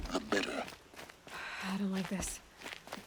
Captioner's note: sigh